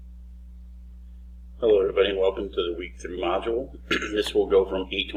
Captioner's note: clears throat